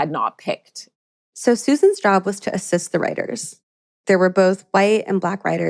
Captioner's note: none